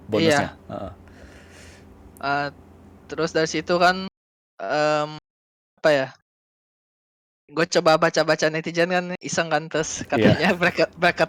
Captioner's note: laugh